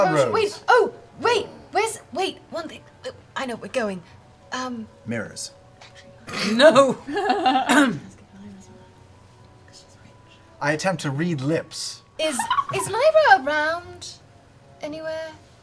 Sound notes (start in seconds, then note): 6.2 laughs; 7.5 clears her throat